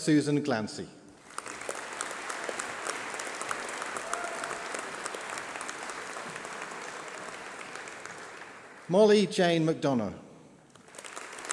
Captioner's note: applause